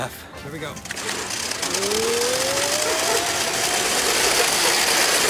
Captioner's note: slide rattles